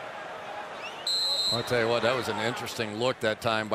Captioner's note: whistle blow